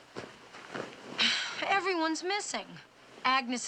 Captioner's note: sighs